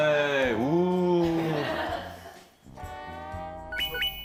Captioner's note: jeering